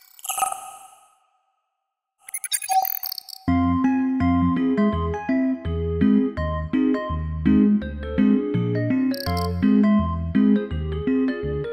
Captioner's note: electronic sound